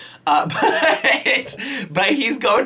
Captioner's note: laughing